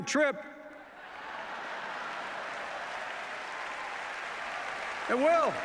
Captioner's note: applause